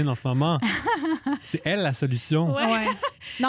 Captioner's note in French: rires